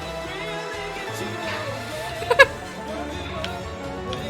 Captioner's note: giggles